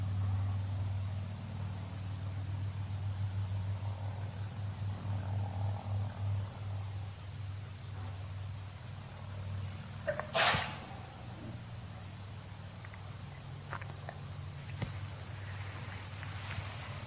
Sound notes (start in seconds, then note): 10.4 coughing